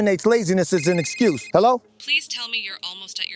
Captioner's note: phone ringing